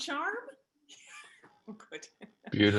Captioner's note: laughter